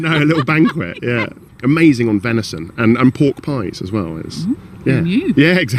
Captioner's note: laughs